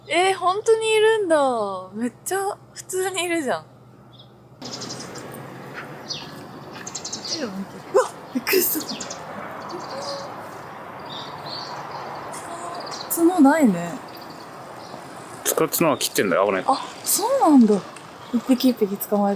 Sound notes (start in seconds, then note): 4.0 laughs